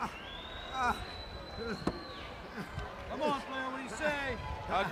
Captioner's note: crowd chattering